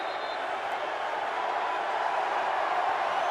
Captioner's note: crowd cheering